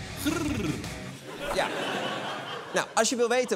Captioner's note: laughter